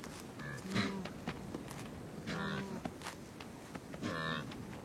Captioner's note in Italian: versi di animali